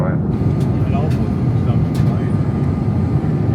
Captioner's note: jets whir